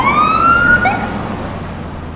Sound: siren whoops

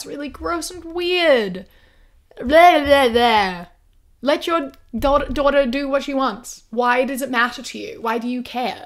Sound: disgusted sounds

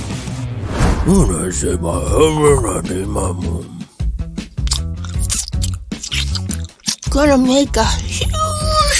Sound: chews noisily, with squelching

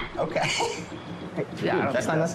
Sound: laughs

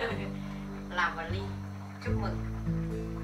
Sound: giggle

